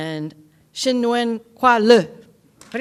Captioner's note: foreign language